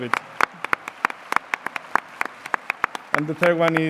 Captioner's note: applause